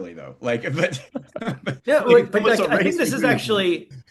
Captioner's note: laughter